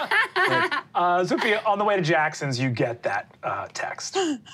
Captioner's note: all laughing